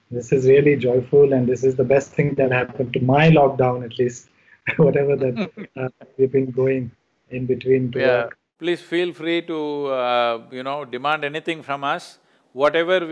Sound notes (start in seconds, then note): 4.7 Sadhguru laughs